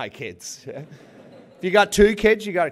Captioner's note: laughter